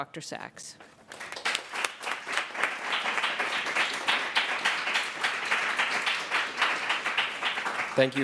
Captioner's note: applause